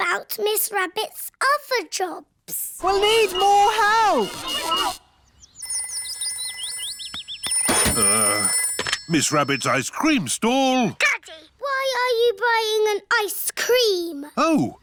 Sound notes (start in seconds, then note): 5.4 phone rings